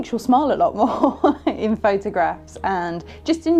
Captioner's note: laughing